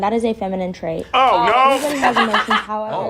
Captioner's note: laughs